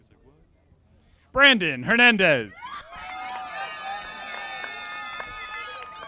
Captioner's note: audience applauding